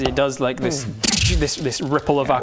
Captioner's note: tsssch